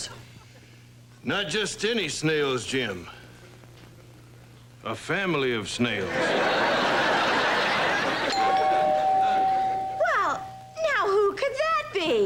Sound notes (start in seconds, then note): 8.2 doorbell rings